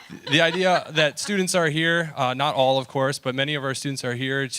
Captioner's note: laughter